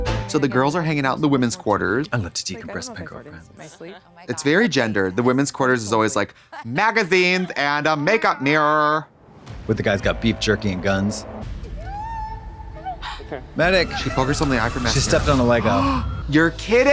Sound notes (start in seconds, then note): 0.0 synth bop; 13.6 sobbing; 15.9 Trixie gasps